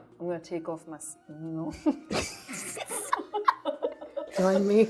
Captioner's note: laughing